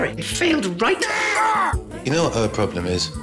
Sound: screaming

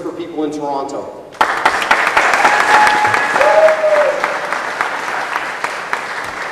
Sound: applause and cheers

